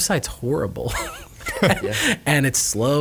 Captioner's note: laughing